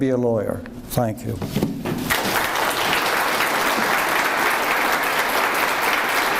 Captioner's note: audience applauds